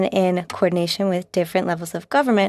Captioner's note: speaking in French